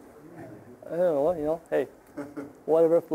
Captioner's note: audience chuckling